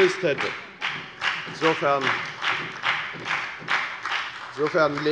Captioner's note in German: Beifall bei der FDP sowie bei Abgeordneten der SPD